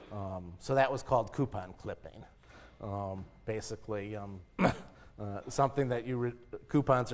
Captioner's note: cough